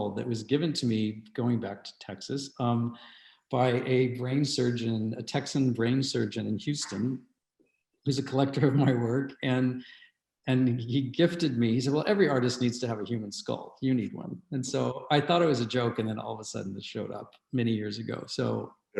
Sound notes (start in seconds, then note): 9.7 chuckles